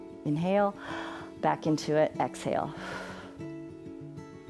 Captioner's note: exhales